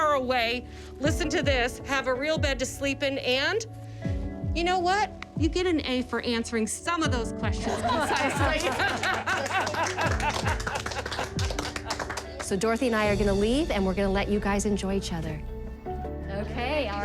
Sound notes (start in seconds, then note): 7.6 laughter